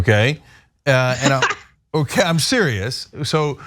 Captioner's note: laugh